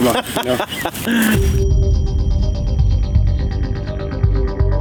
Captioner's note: laughing; intense music